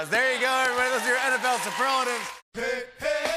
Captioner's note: cheering and applause